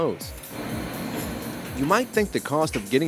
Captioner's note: sounds of washing machine